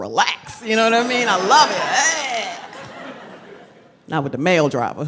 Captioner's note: crowd laughs